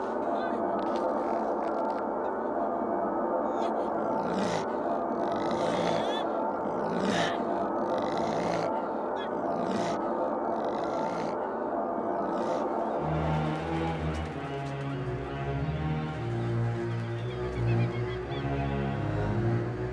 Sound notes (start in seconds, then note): 3.6 growling; 4.4 tense eerie music